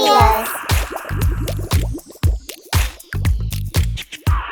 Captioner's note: bubbles popping